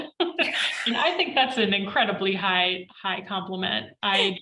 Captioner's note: laughs